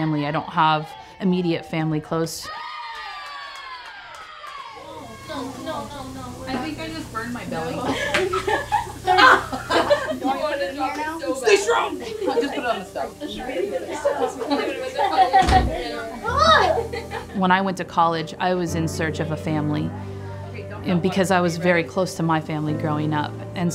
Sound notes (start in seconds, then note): 2.5 players clap and shout; 7.5 women laugh; 13.4 women laugh